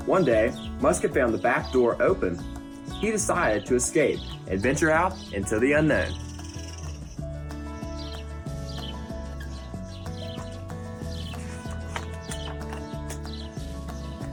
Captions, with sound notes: One day, Musket found the back door open. He decided to escape, adventure out into the unknown. (upbeat music) (birds chirp)